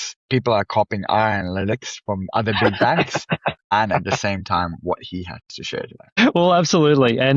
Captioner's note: laughs